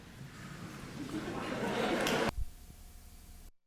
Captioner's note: laughter